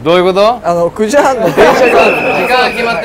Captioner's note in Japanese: ホイッスルの音